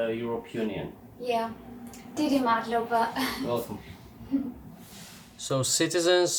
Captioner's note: in Georgian